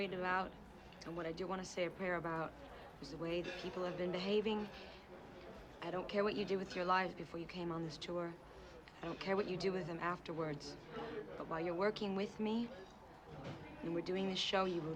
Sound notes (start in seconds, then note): none